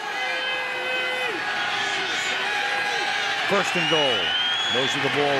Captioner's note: crowd cheering